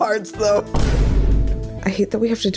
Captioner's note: boom